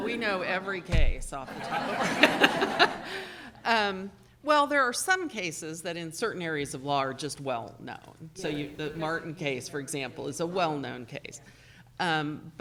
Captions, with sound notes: - We know every case off the top of our head. (audience laughing) Well there are some cases that in certain areas of law are just well known. The Martin case for example is a well known case,